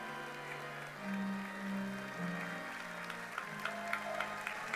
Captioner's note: audience clapping